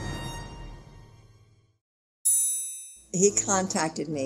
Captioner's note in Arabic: تستمر الموسيقى الدرامية المتوترة; دقات الجرس